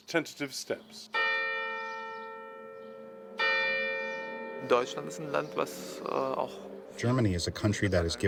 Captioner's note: through translator